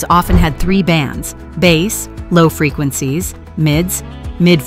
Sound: low frequencies

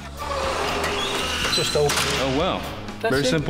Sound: window locking

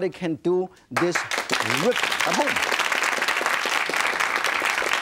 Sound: audience claps

